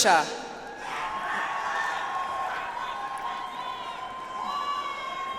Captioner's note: audience applauds